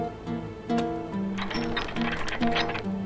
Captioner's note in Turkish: Çark sesi